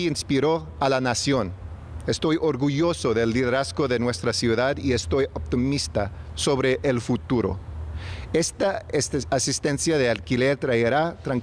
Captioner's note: speaking spanish